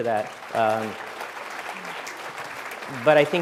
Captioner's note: applause